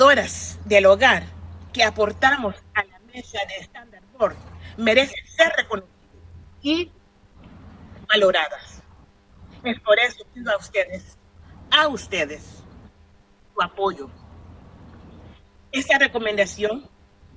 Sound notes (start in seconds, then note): 0.6 speaking spanish; 14.9 speaking spanish